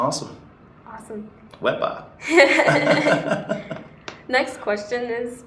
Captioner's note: laughs